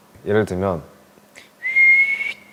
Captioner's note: whistle